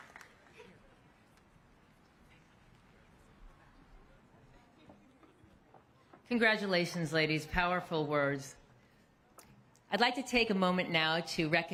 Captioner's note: cheers and applause